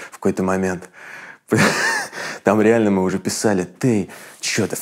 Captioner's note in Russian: давится смехом